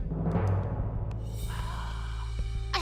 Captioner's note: sighs